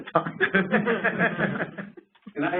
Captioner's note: laughter